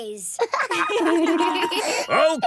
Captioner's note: laughter